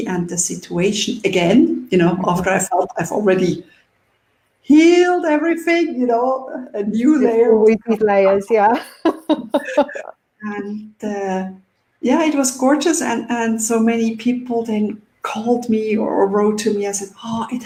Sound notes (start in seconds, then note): 9.5 laughing